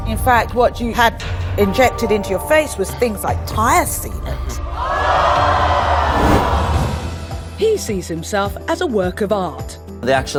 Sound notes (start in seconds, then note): 6.0 gasps from audience